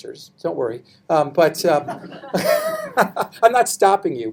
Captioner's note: people laughing